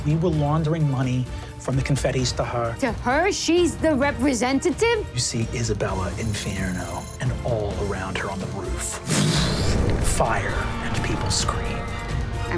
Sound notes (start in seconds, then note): 9.0 mimics explosion; 10.2 people screaming